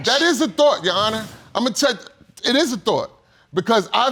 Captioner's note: stutters